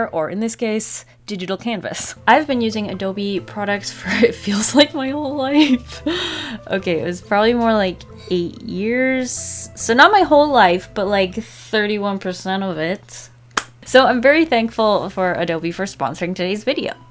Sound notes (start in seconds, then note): 4.5 laughs